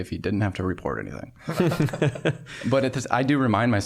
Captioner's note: all laughing